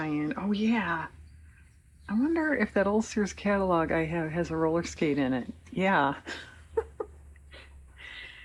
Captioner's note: laughs